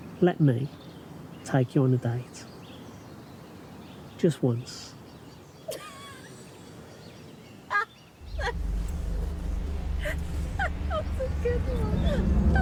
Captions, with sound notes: Let me take you on a date, just once. (Diana laughing) - Good one.